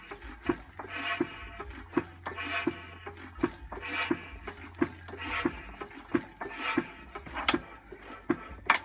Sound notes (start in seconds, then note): 0.0 clunka ting whoosh woosh; 7.1 clunka clunka clunka clunka ting whoosh woosh